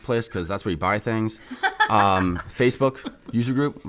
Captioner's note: laughs